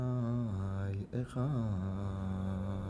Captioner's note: praying in hebrew